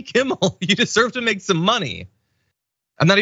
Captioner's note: laugh